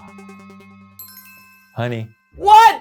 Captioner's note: suspenseful music; list chimes